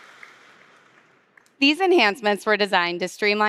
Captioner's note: applause